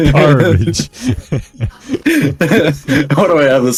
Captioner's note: laughing